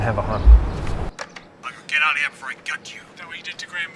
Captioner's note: radio recording clicks on